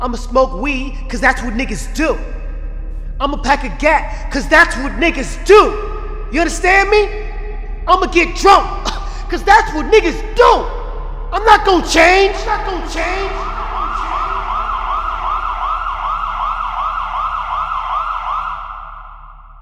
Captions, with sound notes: I'ma smoke weed 'cause that's what niggas do. I'm pack a gat 'cause that's what niggas do! You understand me? I'm a get drunk... 'cause that's what niggas do! I'm not gon' change! (sirens wailing)